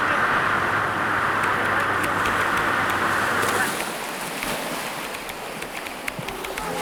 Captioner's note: talking, waves crashing, typing